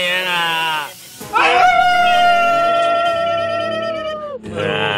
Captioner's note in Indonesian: teriak